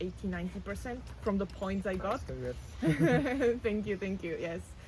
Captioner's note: laughs